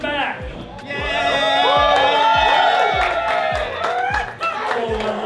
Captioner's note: crowd cheering